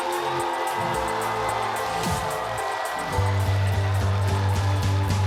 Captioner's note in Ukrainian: оплески